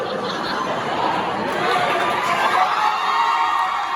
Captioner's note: concert Chorus crescendos into laughter; audience crescendos into applause